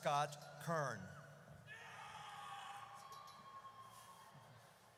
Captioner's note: audience cheers